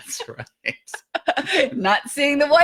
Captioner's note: both laughing